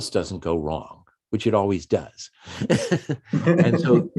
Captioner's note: chuckles